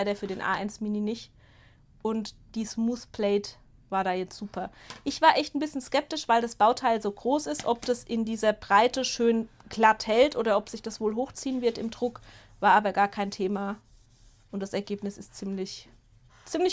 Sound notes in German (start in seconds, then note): none